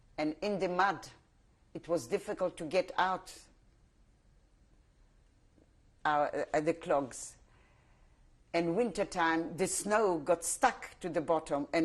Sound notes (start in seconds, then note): 3.3 pauses for 3 seconds